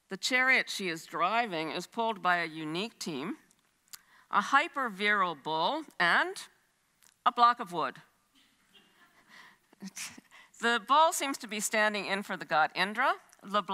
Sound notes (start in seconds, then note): 8.7 chuckles